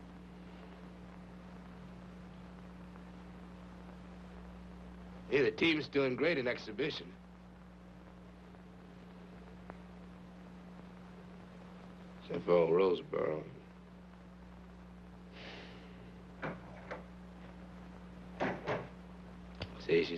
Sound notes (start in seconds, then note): 15.4 David sighing; 16.3 door banging